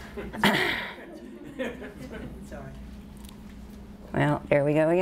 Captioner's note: audience laughter